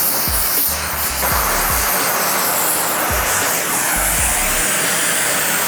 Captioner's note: buzzing